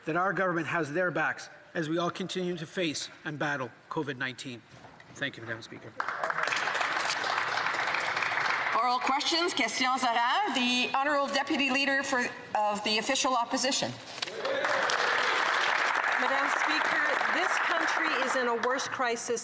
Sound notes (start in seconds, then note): 14.2 some Applause